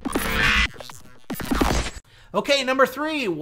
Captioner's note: zapping